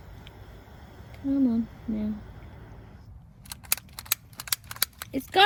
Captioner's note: flame stops hissing; clicks lighter several times; shouts at lighter